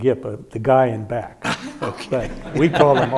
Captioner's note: audience laughing; laughing